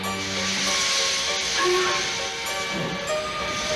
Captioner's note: train whistle toots